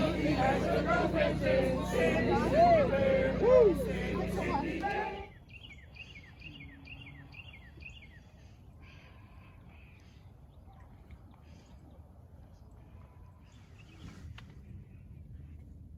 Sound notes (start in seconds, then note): 3.4 whoo; 6.3 birds chirping